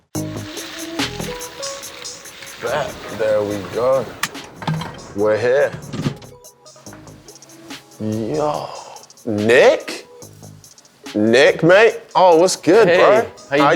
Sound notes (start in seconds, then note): 4.5 wheel ticking; 6.2 calm music